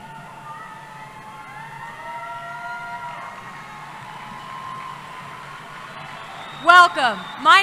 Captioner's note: cheering